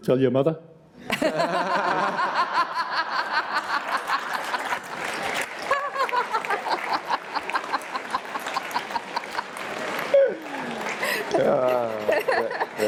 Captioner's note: laughter